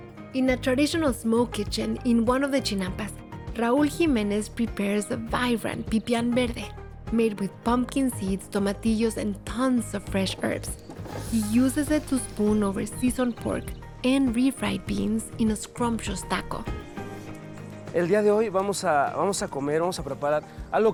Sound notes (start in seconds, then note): 17.6 speaking Spanish